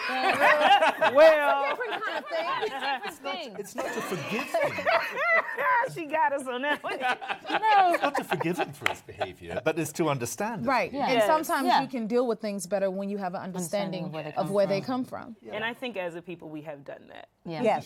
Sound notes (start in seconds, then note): 0.0 laughter; 5.3 laughs; 6.4 laughter